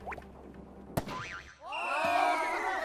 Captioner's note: slap!